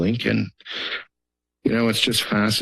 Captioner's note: inhales